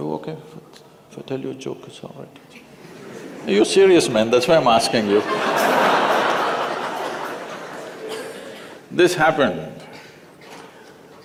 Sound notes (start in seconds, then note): 4.9 few Laugh; 8.2 laughter